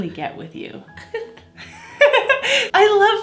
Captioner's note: laughs